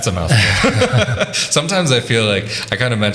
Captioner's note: laughing